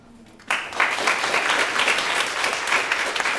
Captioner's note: applause